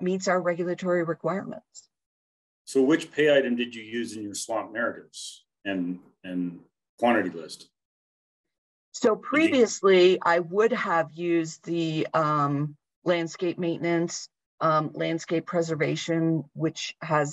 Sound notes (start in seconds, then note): 7.9 talking